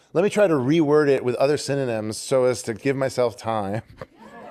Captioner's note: laughter